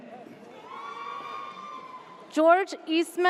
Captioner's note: audience cheers